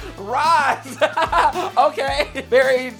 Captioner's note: laughs